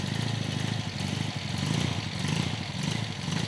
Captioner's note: the rumbling noise of the engine